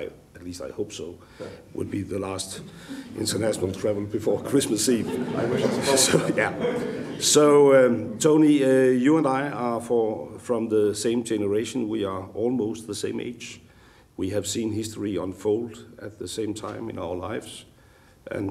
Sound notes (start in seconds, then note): 4.4 laughter